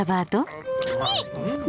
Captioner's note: squeak